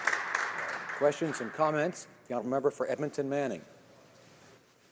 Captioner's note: some Applause